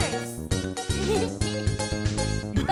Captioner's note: giggles